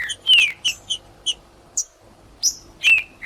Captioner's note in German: trinca ferro cantando; trinca ferro cantando